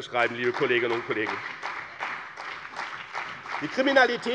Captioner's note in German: Beifall bei dem BÜNDNIS 90/DIE GRÜNEN und der CDU